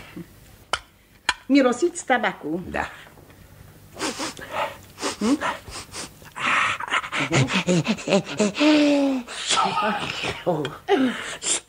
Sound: sniffs

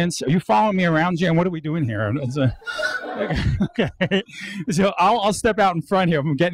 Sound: audience laughs

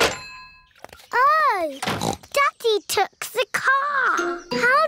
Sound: oinks

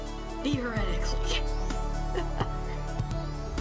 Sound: laugh

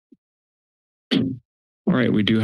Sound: thud

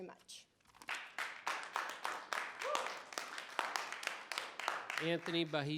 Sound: audience applauding

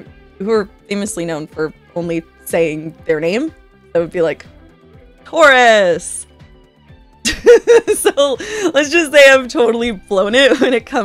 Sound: laughter

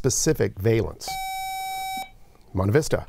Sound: buzzer

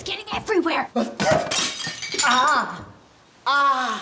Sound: Brom sneezes; something shatters

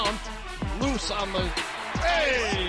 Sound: crowd cheers

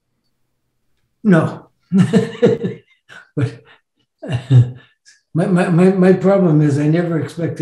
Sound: laughs

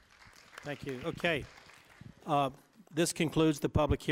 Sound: applause

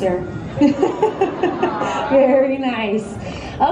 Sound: laughs; audience awws

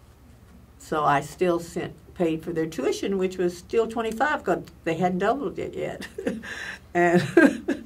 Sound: laughs

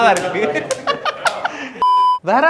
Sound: laughs

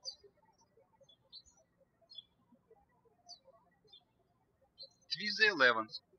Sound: birds chirping

